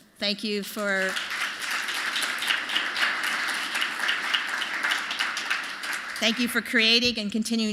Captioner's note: applause